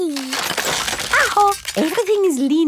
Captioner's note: house creaking